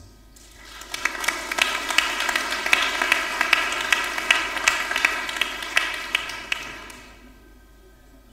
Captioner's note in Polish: oklaski